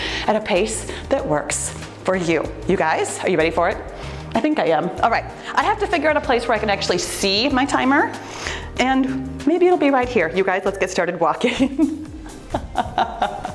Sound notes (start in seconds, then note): 11.5 laughs